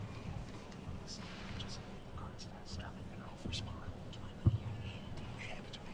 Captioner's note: teachers whispering